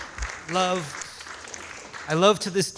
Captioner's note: audience applauds